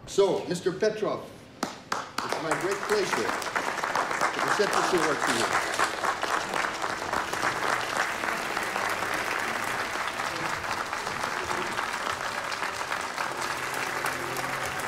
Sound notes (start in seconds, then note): 6.1 audience applauding